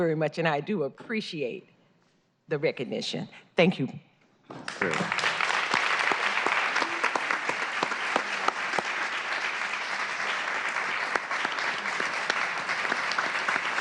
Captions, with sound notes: RECOGNITION. THANK YOU. [ APPLAUSE ]